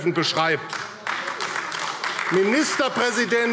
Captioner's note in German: Beifall AfD